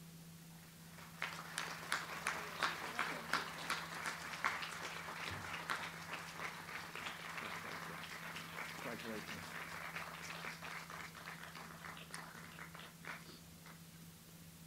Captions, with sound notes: (audience applauds) Congratulations.